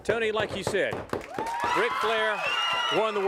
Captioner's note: crowd cheering